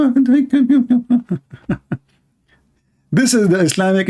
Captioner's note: Ketawa